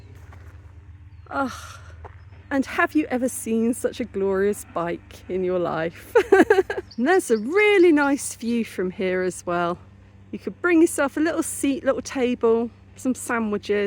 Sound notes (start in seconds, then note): 1.4 contented sigh; 5.9 laughing